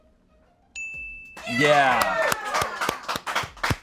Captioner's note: bell dings; audience applauding